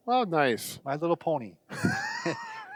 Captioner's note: laughing